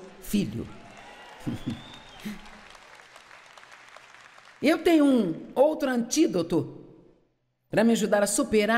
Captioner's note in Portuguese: audiência se alegra